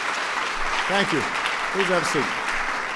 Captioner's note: applause